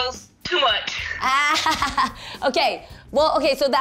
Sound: laughing

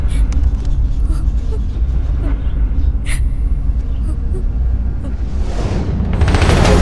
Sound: sobbing

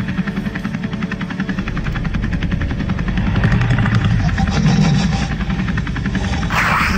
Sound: helicopter whirring

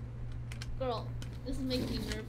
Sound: none

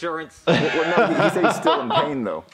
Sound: laughs

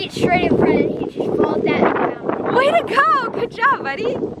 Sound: wind muffles speaking

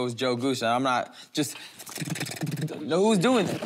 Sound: thrumming

